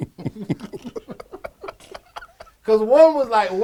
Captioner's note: laugh